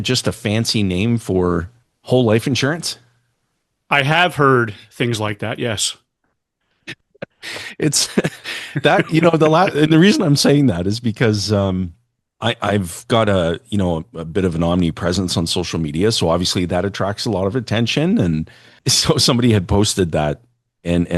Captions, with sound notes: fancy name for whole life insurance?" I have heard things like that, yes. It's [laughter] That, you know, the and the reason I'm saying that is because um I I've got a, you know, a bit of an omnipresence on social media, so obviously that attracts a lot of attention, and so somebody had posted that, and and I I